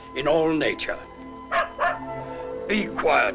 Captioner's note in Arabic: جدعون ينبح